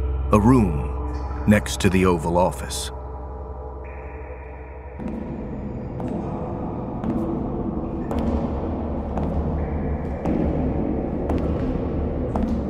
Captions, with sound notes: A room next to the Oval Office. (echoed footsteps approaching)